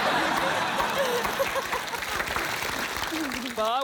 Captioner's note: laughter